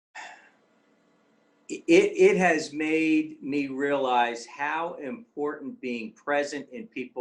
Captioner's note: sigh